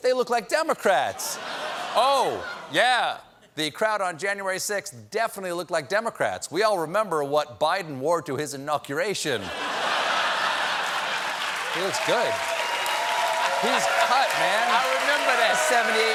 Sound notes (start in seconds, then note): 9.4 laughter; 10.4 applause